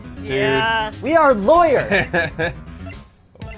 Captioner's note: laughs